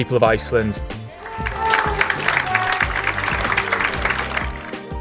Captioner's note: audience applauding